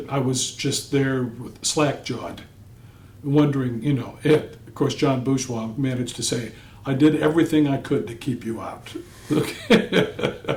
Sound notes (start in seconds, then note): 9.2 laughter